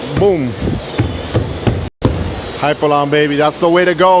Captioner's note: pounding